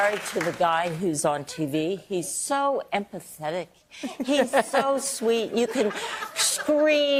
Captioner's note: applause